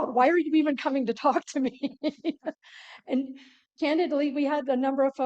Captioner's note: laughter